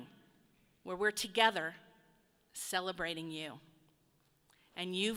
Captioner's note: none